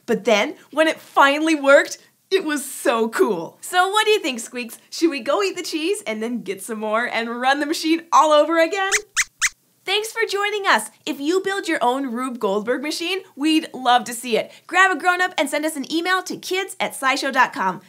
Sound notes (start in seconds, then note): 8.9 squeaks squeaks